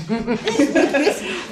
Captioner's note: laughing